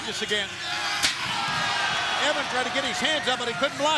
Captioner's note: crowd cheering; chair thudding